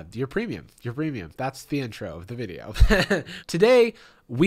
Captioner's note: laughs